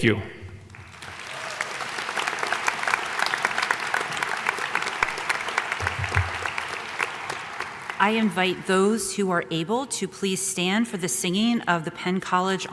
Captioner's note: applause